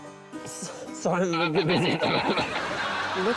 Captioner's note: laughter